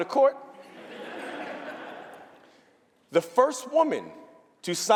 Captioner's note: laughter